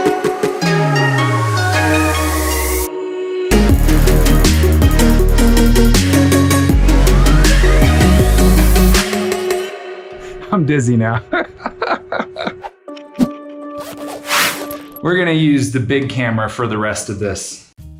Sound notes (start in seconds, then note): 11.2 laughs